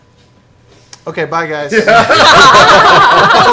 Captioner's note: all laugh